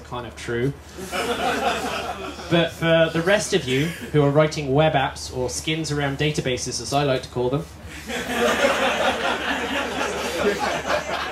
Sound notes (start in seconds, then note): 1.0 laughter; 7.9 laughter